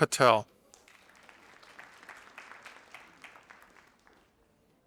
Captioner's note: audience applauding